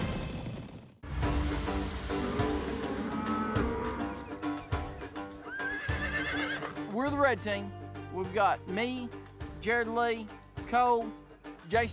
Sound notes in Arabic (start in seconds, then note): 2.1 خرور الأبقار; 5.2 صهيل الخيول